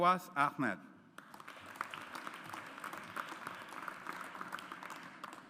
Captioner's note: audience applauds